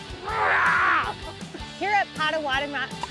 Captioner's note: yells